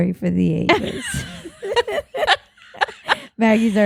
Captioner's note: laughing